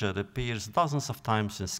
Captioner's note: none